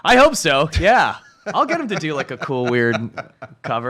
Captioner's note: laughs